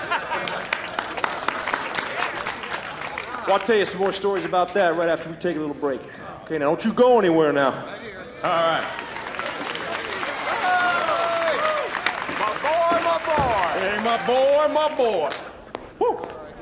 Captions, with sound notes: WANT TO TELL YOU SOME MORE STORIES ABOUT THAT, RIGHT AFTER WE TAKE A LITTLE BREAK. OKAY, NOW DON’T YOU GO ANYWHERE, NOW. ALRIGHT. [ Cheering/applause ] MY BOY, MY BOY! HEY, MY BOY, MY BOY. WHOO!